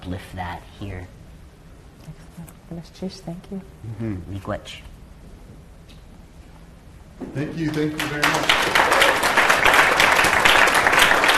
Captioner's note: applause